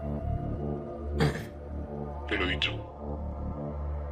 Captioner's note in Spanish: carraspea